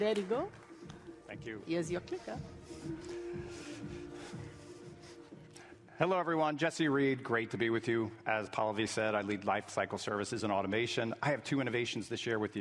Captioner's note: applause